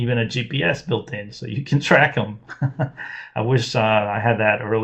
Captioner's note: laughs